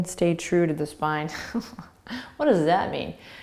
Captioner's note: laughing